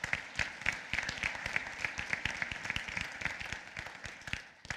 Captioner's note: applause